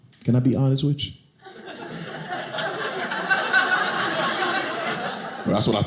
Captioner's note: audience laughing